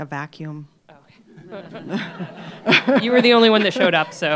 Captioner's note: laughter